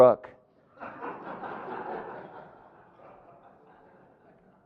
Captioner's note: audience laughing